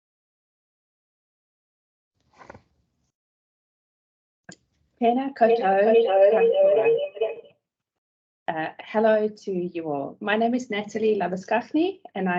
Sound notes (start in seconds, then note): 5.1 speaking in te reo Maori